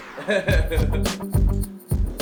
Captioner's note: chortling